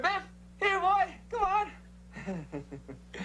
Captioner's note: laughs